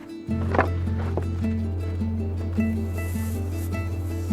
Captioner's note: supplies unrolling; pen brushing across canvas